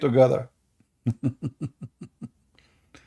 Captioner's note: Ketawa